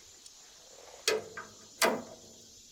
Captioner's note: metal clanking